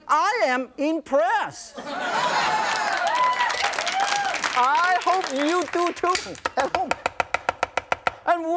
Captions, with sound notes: I am impressed! (crowd cheering) I hope you do too, at home!